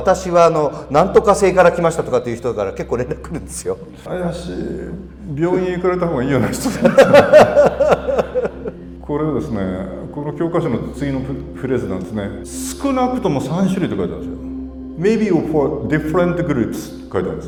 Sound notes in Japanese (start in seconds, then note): 6.4 笑い